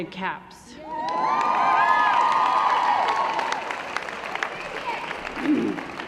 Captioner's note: cheering & Applause